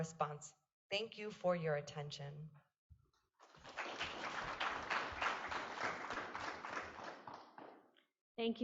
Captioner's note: applause